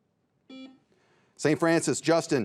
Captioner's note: buzzer beeps